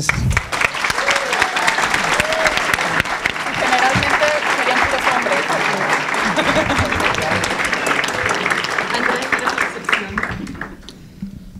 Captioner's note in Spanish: Aplausos